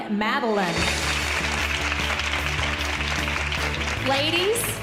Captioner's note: audience applauding